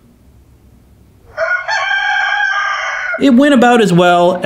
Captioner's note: rooster crowing